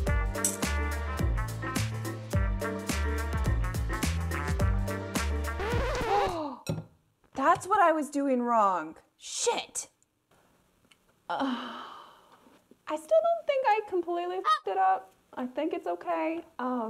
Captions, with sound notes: (funky music) (record scratching) (gasps) That's what I was doing wrong! Shit! (sighs) I still don't think I completely (goose honking) it up. I think it's okay.